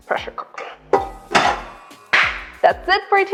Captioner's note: pot clatters; claps